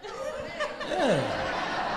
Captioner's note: crowd laughs